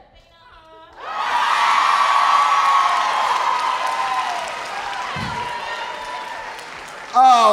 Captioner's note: audience cheering; audience applauding